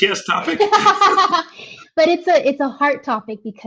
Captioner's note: laughing